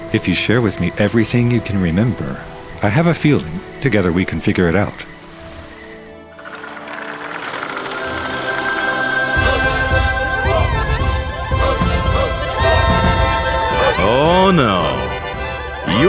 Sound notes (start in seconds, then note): 6.5 wood creaks; 9.5 cheerful accordion music